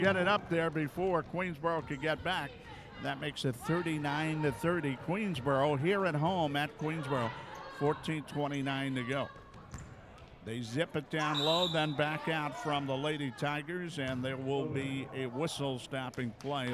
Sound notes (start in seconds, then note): 11.2 referee whistling